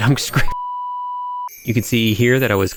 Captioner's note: beep